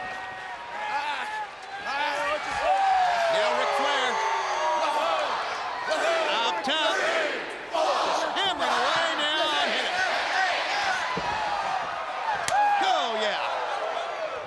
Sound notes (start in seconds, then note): 2.1 crowd chatter; 3.7 crowd cheering; 5.8 crowd cheering; 11.3 crowd cheering